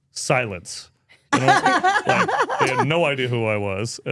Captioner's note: speaker laughs